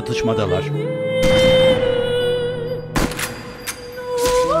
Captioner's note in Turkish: Silah sesleri